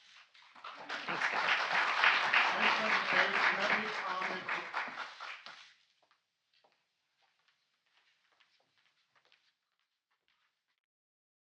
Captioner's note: applause